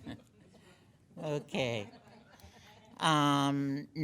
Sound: laughing

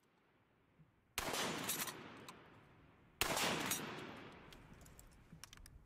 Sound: gun fires

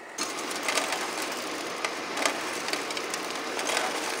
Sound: engine roaring

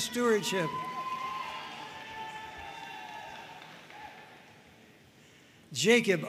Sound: audience cheering and applauding

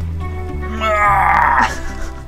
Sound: screams

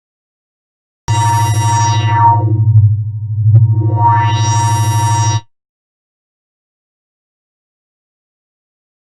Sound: scary sound

